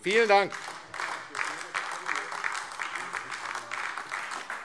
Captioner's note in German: Beifall AfD